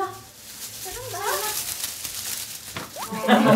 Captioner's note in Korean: 부스럭 소리